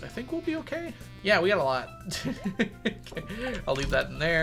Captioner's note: laughs